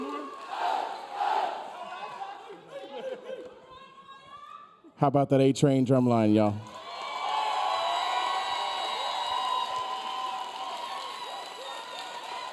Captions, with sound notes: - Y'all got one more? (band cheering) - How about that A-train drum line, y'all? (audience cheering)